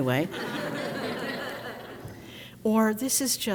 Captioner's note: crowd laughs